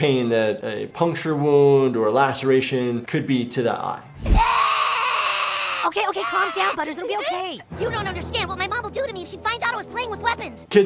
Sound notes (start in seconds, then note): 4.4 Butters crying